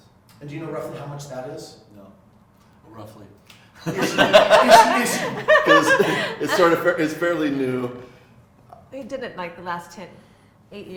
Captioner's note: all laughing